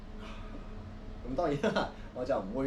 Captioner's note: gasp